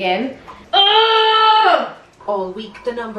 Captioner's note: groaning